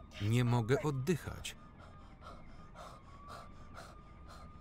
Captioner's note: panting